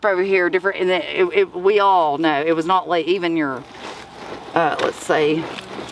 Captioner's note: stammers